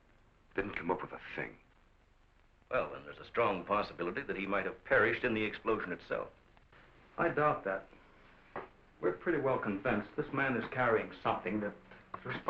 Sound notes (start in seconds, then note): none